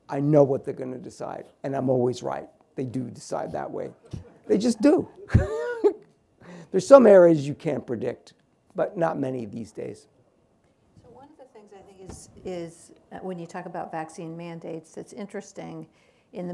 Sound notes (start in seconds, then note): 3.5 laughs